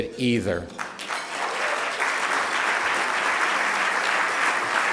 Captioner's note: applause